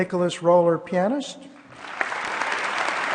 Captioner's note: applause